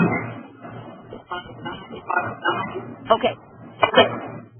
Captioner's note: audio feedback